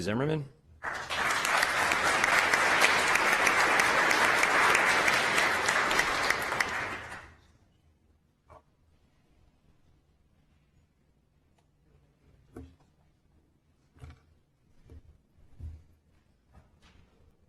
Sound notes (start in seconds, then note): 9.8 applause